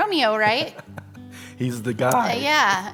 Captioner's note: chuckles